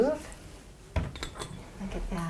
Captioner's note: glass clinking